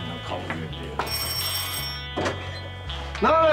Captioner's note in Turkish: Kapı zili sesi